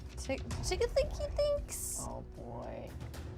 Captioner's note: none